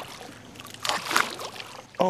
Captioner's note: splas